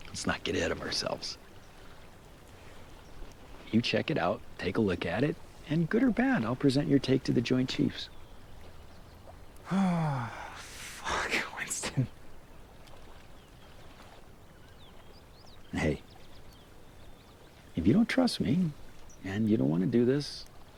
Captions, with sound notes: - Let's not get ahead of ourselves. You check it out, take a look at it, and good or bad, I'll present your take to the Joint Chiefs. (Kent sighing) - Fuck, Winston. - Hey, if you don't trust me and you don't wanna do this,